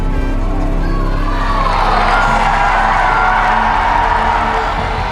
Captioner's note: crowd cheers